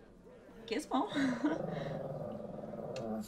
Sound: dog growls

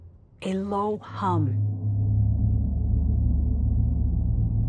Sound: humming

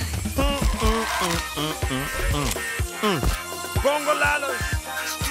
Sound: humming

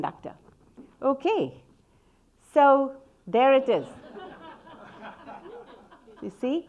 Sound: audience laughing

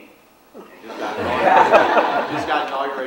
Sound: audience laughs

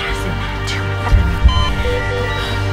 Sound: heartbeat

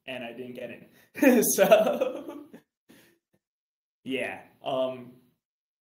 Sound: laughs

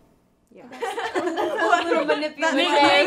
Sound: everyone laughs

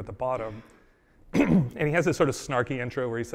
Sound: coughs

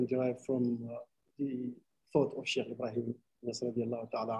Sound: speaking arabic

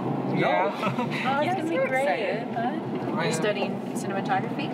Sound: chattering

